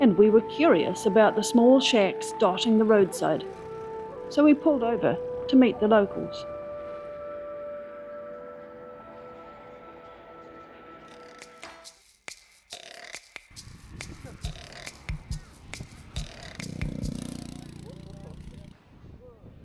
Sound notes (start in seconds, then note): 13.0 laughing